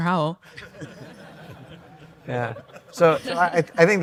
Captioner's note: audience laughs